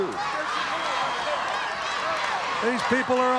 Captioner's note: audience cheering